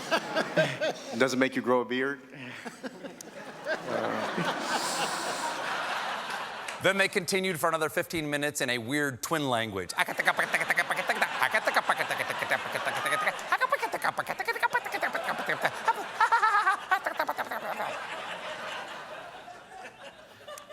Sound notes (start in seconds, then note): 6.5 laughter; 14.0 laughter; 14.0 talking in twin language